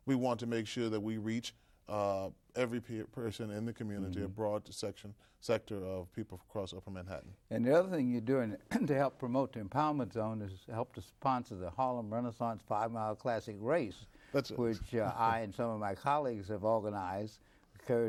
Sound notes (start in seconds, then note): 14.6 laughs